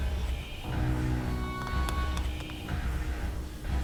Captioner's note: hissing; ominous music